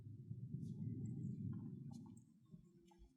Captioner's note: none